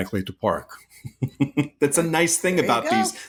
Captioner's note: chuckling